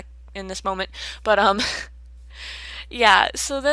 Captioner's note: laughs awkwardly